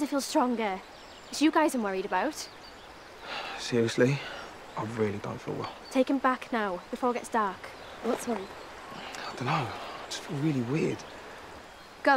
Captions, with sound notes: I'm already starting to feel stronger. It's you guys I'm worried about. [exhales] Seriously. I really don't feel well. Take him back now, before it gets dark. What's wrong? I don't know. I just feel really weird.